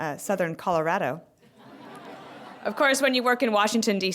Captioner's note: laughter